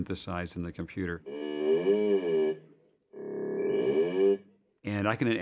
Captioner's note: modulating sound